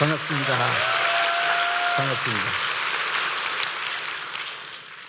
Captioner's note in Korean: 박수